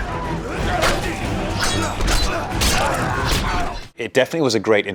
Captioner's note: soldiers grunt; sword slashing